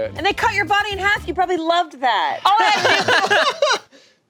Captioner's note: group laughing